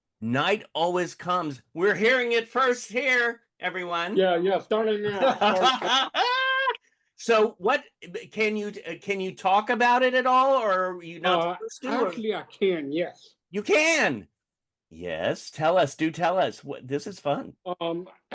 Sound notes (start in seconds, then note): 5.0 laughter